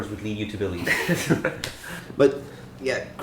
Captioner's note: laughter